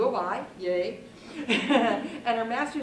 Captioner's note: laughs